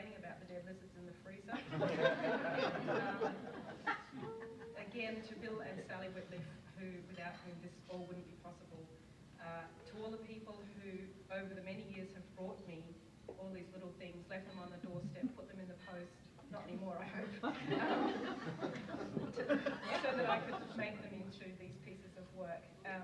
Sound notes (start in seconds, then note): 1.6 audience laughs; 17.2 audience laughs